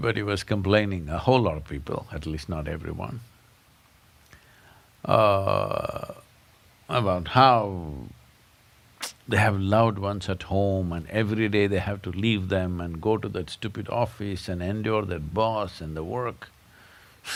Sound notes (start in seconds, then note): none